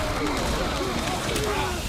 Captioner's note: players grunting